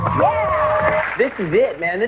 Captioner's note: audience cheering